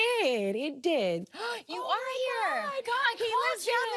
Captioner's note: gasps